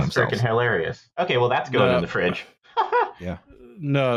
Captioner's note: laughter